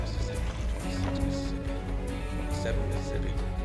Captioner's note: counting